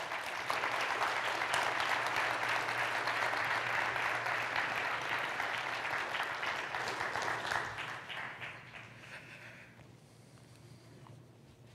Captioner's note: applause